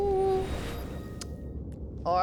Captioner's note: bling!